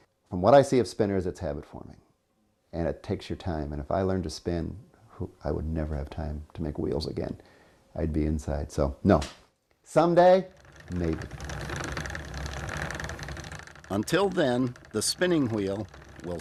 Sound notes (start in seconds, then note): 10.4 wheel rattling